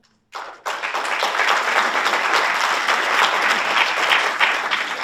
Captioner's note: audience applauds